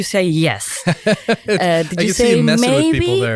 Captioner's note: laughs